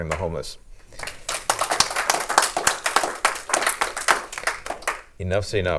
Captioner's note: clapping